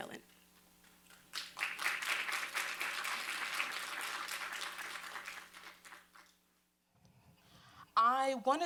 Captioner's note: applause